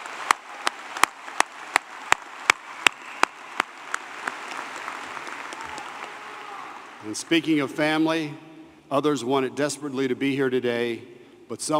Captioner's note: applause